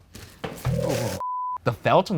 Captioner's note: beeps